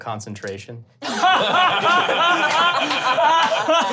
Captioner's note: laughing